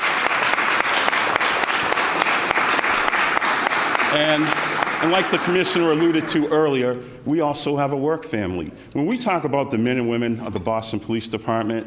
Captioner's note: applause